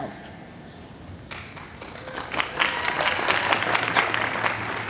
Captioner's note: applause